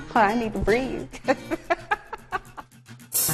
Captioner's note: laughing